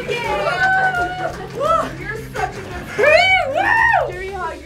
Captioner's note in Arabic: كل الهتاف